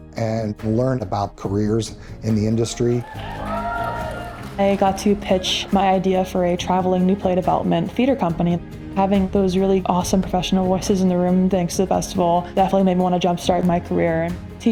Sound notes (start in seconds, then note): 2.7 audience cheering